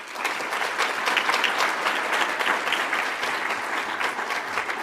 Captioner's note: audience applauds